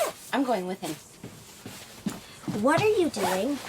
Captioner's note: stomps out